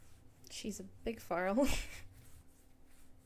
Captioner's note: snickers